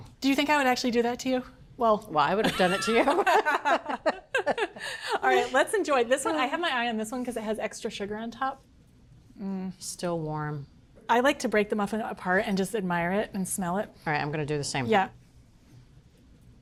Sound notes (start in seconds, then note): 2.4 both laugh